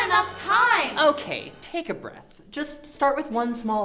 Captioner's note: dramatic music; dramatic sounds and sirens stop